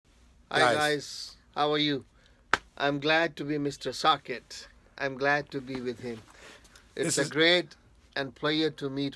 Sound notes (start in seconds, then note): 2.5 slapping